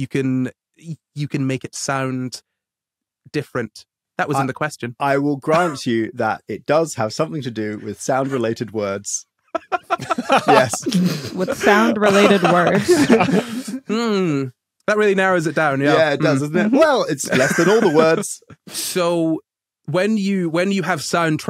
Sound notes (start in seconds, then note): 9.5 laugh; 9.5 snickers